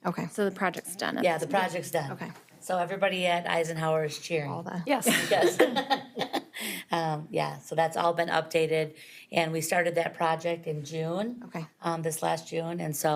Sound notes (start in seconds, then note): 6.5 laughs